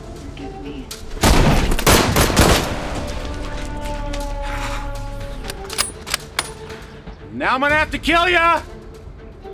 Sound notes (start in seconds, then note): 1.0 guns firing